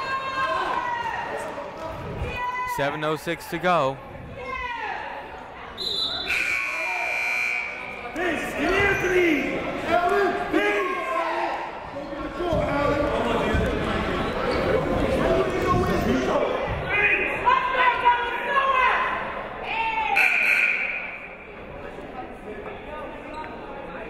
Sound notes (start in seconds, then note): 4.6 shouting; 5.7 whistle blowing; 7.3 buzzer ringing; 9.0 shouting; 21.1 buzzer ringing